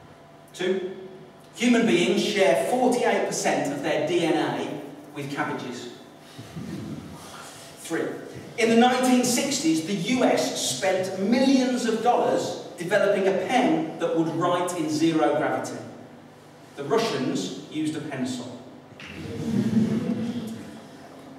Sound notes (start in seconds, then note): 19.2 laughter